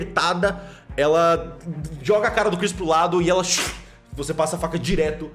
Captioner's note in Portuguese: schhk